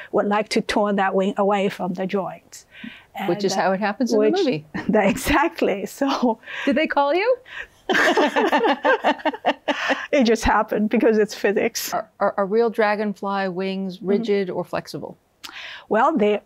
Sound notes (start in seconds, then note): 7.8 both laughing; 7.9 chuckles